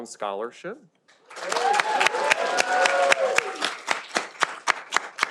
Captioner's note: audience applauding